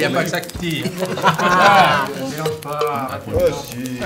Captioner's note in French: rires